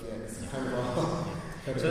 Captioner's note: chuckles